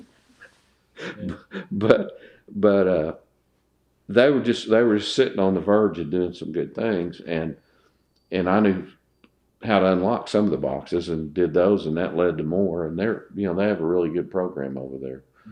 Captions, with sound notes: (Laughter) They were just sitting on the verge of doing some good things, and I knew how to unlock some of the boxes and did those, and that led to more. They have a really good program over there